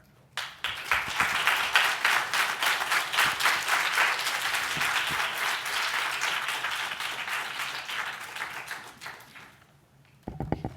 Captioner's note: audience Applauds